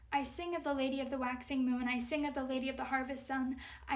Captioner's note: none